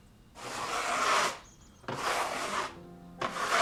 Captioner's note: paint scraping